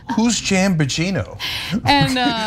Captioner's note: laugh